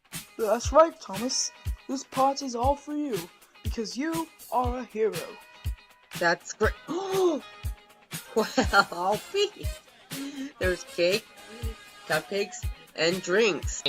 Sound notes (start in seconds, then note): 7.2 gasp; 8.2 laughing